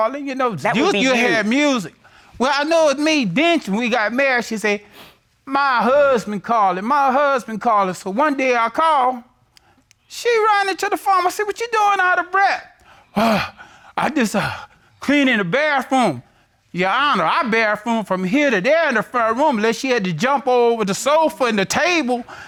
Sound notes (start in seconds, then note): 12.8 imitates panting